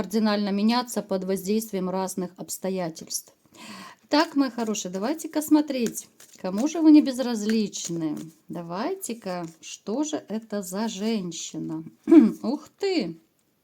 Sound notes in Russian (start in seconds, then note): 12.0 откашливается